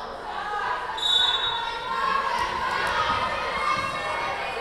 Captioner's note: whistle blowing